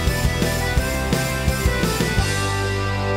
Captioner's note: none